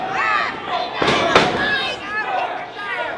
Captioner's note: indistinct shouting; thumping sound; crowd cheering; indistinct shouting